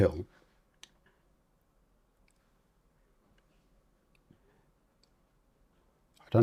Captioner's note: silence